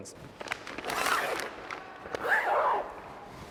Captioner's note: zipper closes